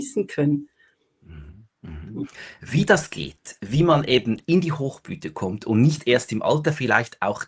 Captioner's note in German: räuspern